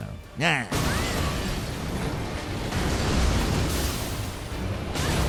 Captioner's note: dancing Lion screeching